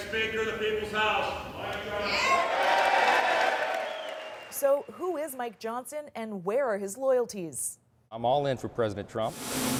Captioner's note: applause